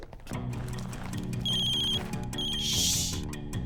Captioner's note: cell ringing